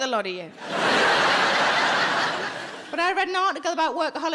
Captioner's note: audience laughing